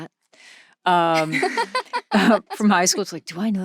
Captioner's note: laughing